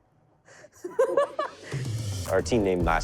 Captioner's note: laughs